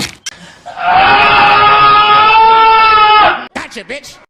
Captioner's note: Bart Screams In Pain